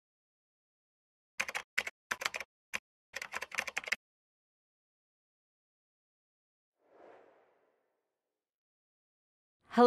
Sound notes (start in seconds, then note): 1.4 keyboard typing; 6.9 whooshing